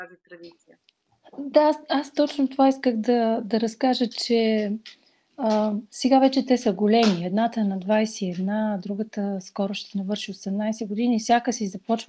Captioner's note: foreign Language followed by English Interpreter